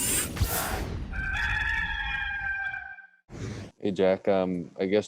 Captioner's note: rooster crowing